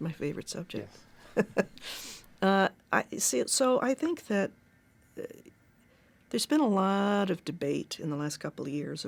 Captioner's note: chuckles